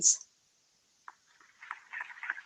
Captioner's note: applause